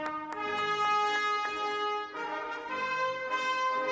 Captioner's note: applause